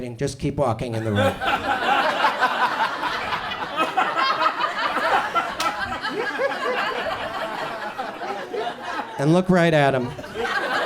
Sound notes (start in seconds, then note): 0.9 audience laughs